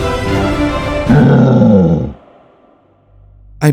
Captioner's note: roar